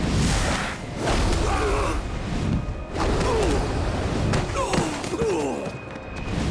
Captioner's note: groaning